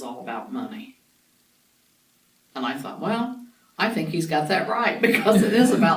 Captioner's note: laughs